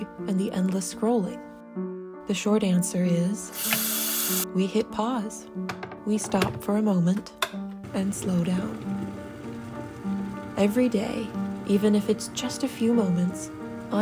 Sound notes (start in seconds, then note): 3.5 faucet running; 7.8 water boiling